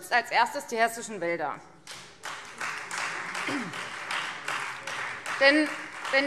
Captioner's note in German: Beifall Freie Demokraten